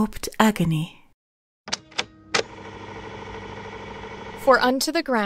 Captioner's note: tape recorder starts